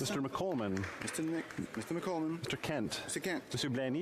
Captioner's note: speaking French